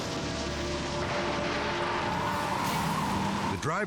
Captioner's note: crash thundering; engine revs; tires screech